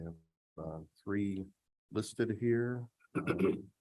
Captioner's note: clears throat